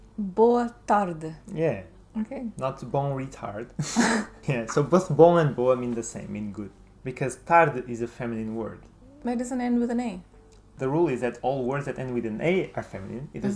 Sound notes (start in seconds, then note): 3.8 laughs